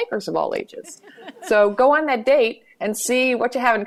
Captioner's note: laughter